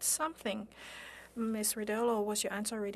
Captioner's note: speaking French